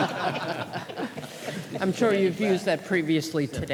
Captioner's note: laughter